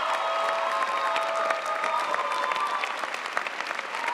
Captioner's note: audience applauding